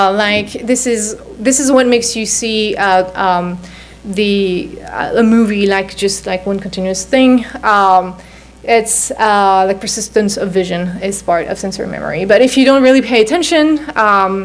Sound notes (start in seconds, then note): none